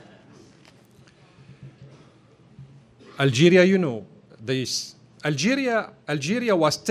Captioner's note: laughter